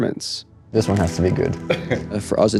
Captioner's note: chuckles